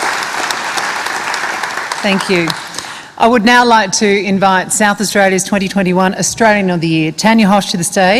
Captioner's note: applause